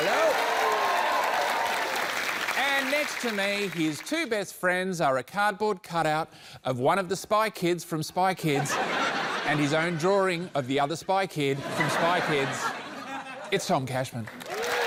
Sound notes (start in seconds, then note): 0.0 cheering, applause; 8.5 laughter